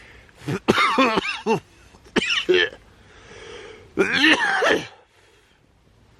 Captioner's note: coughs hard from the smoke